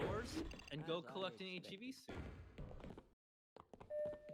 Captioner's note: game noises, intense music